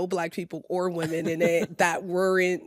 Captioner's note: laughs